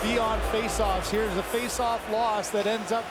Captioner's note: booing